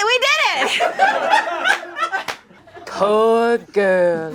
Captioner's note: audience laughing